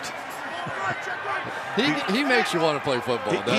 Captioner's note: arguing